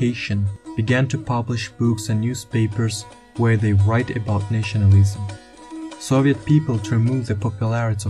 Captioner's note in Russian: Туркменский